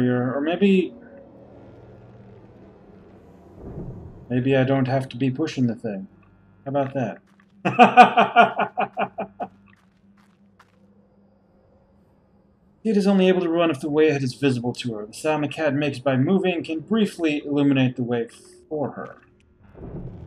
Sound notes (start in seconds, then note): 7.6 laughs